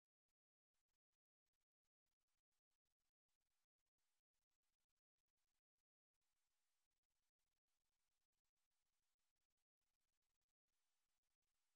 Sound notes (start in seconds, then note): none